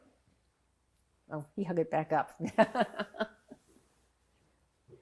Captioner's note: laughing